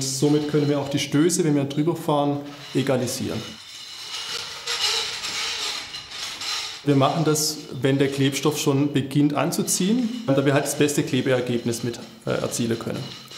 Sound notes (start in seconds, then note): 4.4 crunch